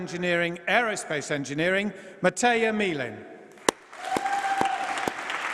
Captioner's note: applause